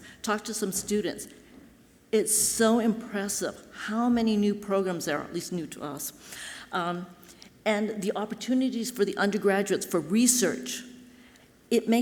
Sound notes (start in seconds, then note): none